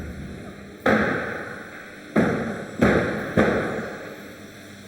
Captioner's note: doors clunking